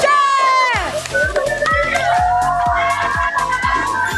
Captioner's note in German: Jubel